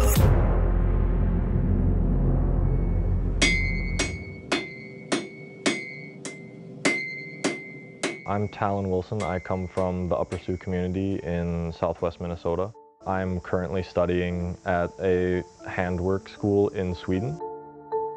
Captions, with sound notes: (hammer clanking) I'm Talon Wilson. I come from the Upper Sioux community in Southwest Minnesota. I'm currently studying at a handworks school in Sweden.